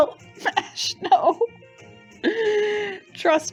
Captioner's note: laughing